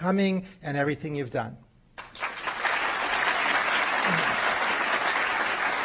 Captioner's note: applause